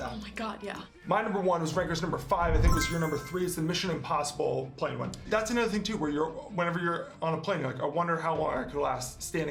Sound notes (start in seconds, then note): 2.5 blip